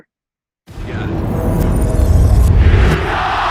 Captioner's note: booming sound effect